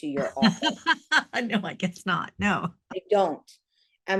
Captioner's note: chuckles